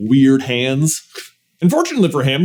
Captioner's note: scoffs